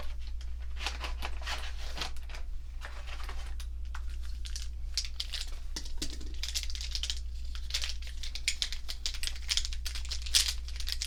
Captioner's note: markers shuffling